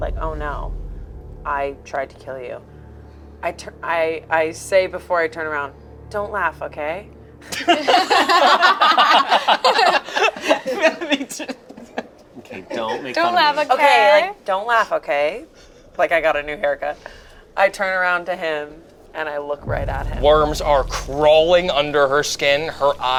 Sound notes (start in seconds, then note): 7.4 group laughs